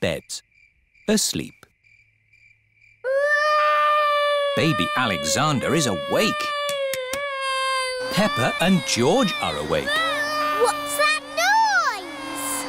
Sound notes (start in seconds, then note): 2.6 baby alexander crying; 8.0 vacuum cleaner whirring